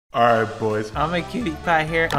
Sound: pitched Down

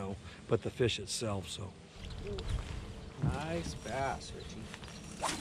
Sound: rod whipping

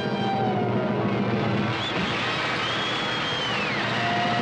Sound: audience applauding

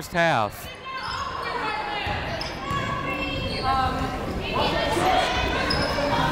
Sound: people shouting in the crowd

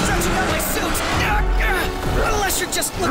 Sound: roars

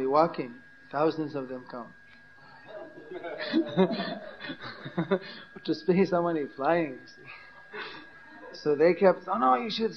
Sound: laughter

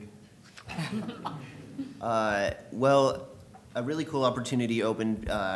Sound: laughter

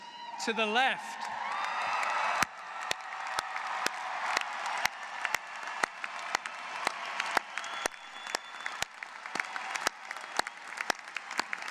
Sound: applause

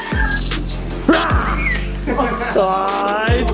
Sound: screams

